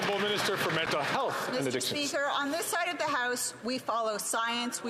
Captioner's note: some Applause